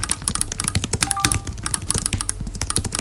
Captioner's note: notification sound